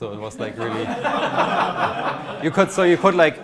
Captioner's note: audience laughs